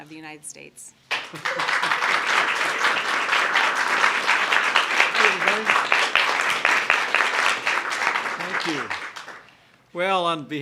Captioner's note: applause